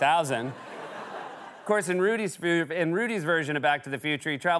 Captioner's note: laughter